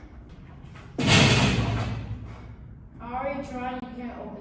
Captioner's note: gate rattles